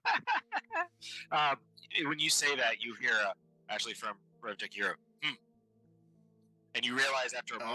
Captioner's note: laughing